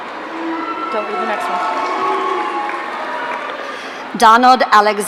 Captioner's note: audience cheering